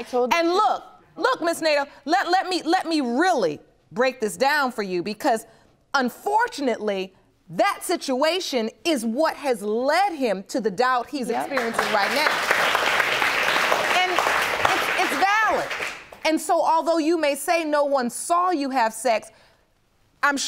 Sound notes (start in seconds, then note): 11.4 audience applauding